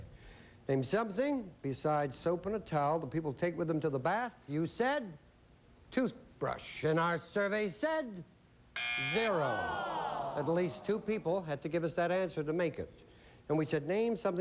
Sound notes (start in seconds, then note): 8.7 buzzer; 9.1 audience groans